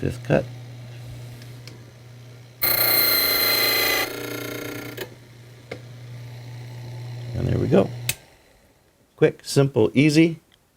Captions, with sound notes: Fifth cut. (drilling sound) And there we go. (machine cuts off) Quick, simple, easy.